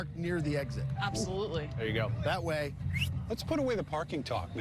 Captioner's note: whistles